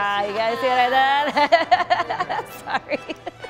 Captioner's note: laughs